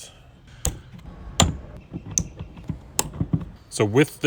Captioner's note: plastic clicking